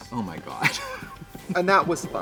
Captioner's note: Katya laughs